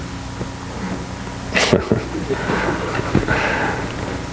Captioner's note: laughs